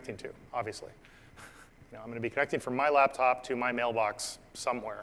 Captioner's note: laugh